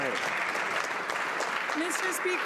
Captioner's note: some Applause